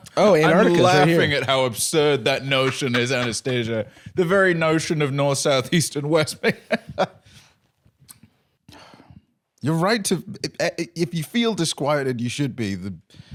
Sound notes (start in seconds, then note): 6.9 fake laughing; 8.7 sighs